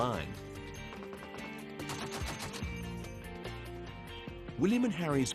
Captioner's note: gunfire rattling